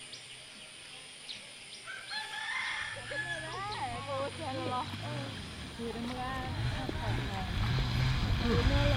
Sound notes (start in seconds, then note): 1.8 rooster crows; 2.9 people chatter